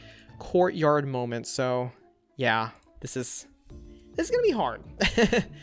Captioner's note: laughs